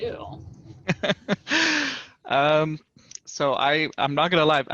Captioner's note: laughter